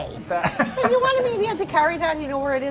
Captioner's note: laughter